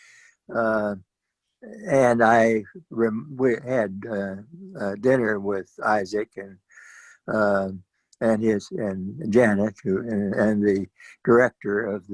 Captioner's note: audio distortion